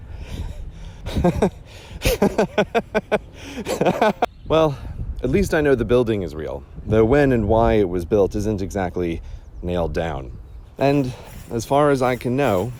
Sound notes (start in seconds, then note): 0.1 chuckling turns into crazed laughter